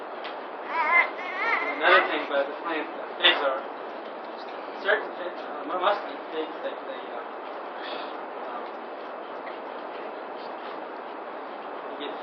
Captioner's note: bebek ağlaması